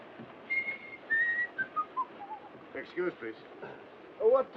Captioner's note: whistling